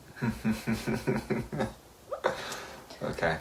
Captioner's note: laughs